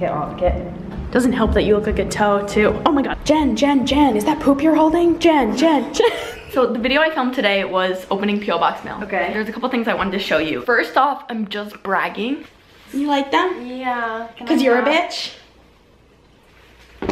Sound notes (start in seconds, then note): 5.7 laughs